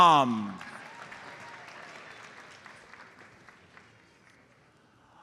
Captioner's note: audience applauds